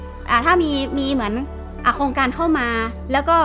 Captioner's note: woman speaking Thai